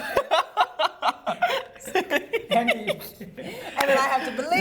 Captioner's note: laughter